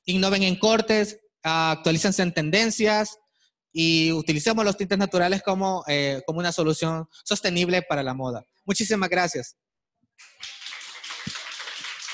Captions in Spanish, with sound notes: Innoven en cortes, actualícense en tendencias, y utilicemos los tintes naturales como una solución sostenible para la moda. Muchísimas gracias. [APLAUSOS]